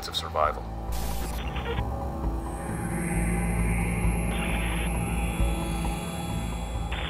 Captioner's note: intense music; static buzzing